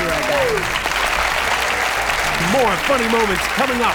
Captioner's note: cheering and applause